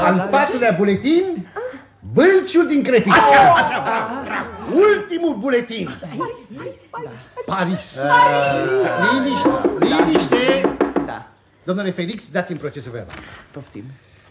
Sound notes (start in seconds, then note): 9.3 knocks on the table